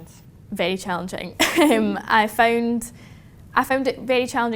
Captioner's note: laughs